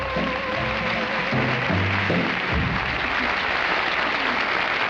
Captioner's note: audience applauding